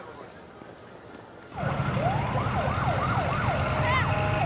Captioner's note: siren wailing